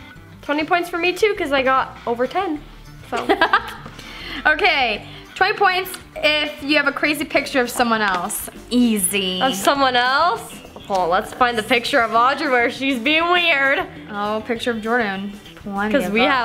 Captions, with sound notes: - 20 points for me too 'cause I got over 10. - (laughs) Okay. 20 points if you have a crazy picture of someone else. Easy. - Of someone else? Let's find a picture of Audrey where she's being weird. - Oh, picture of Jordan, plenty of those.